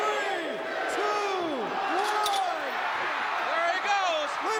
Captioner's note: crowd cheers